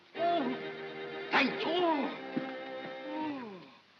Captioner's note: ominous whimsical music; Ollie whimpers; ominous whimsical music